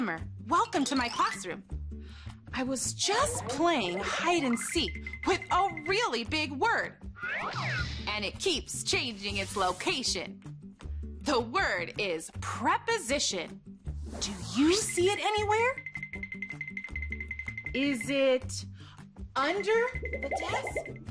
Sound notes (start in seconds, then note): 6.9 playful music; 15.8 twinkling sounds